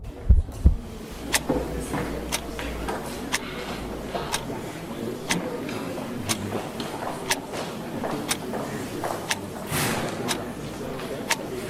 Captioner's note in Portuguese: Relógio tique-taqueando